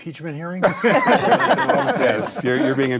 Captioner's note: group laughing